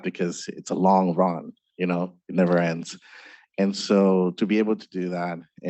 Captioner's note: none